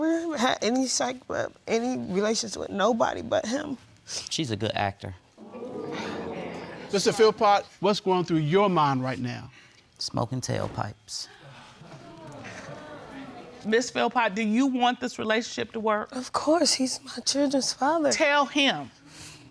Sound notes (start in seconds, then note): 5.4 crowd exclaiming; 11.5 crowd muttering